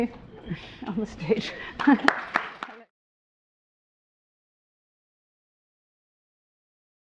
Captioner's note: chuckles; audience clapping